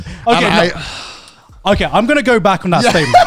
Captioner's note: sighing